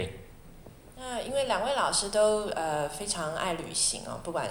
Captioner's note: Mandarin; Mandarin